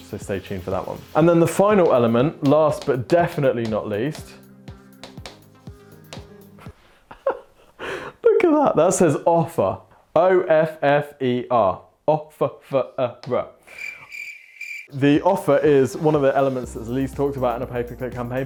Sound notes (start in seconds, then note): 7.0 laughs; 13.6 crickets chirping